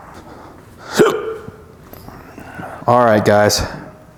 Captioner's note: sneezing